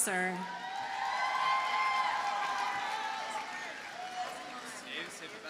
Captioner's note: audience cheers and applauds